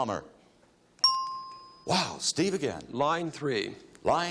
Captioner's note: bell chimes